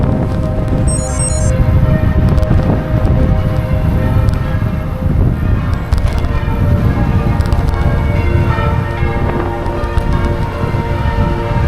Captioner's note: church bells